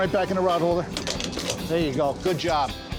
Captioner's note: clicking into place